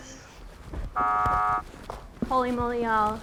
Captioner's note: buzzing sound